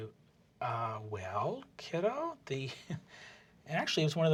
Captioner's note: laughs